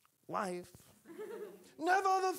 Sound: audience laughing

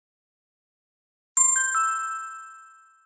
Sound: ding!

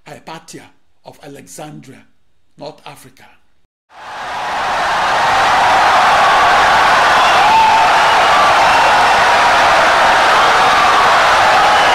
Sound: wild applause and cheering for 17 seconds

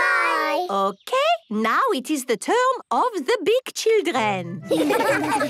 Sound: laughter

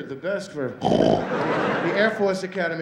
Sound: snoring

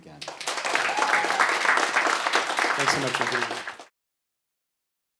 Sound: audience applauds

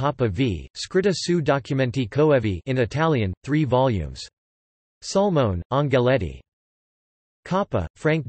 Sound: in Italian

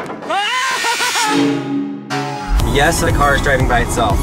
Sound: saw buzzing; excited shouting

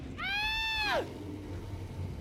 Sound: tough guy screams

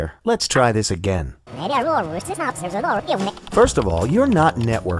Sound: sound of rewinding audio

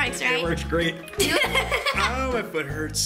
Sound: laughs

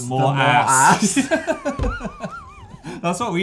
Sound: laughing

